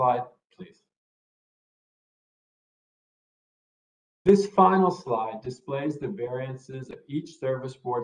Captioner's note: A pause